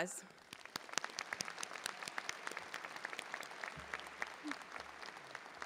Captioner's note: audience and faculty applauding